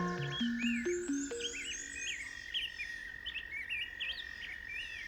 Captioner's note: frog croaking; birds singing